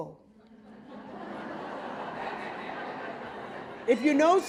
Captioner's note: audience laughing